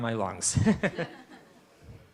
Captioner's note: laughter